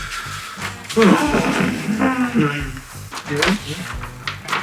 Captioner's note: extended troll-voice-break